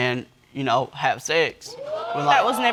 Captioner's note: audience shouting